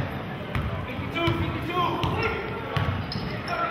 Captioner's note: yelling